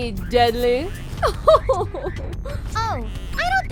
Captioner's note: laughs like a frenchwoman